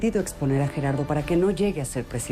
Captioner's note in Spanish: none